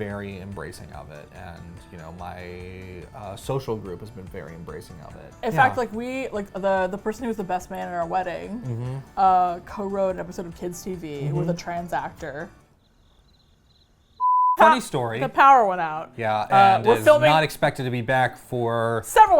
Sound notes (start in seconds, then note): 12.6 crickets